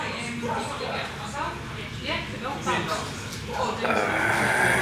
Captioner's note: sip